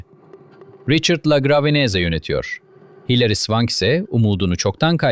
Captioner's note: thoughtful